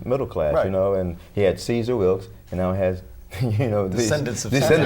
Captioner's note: laughter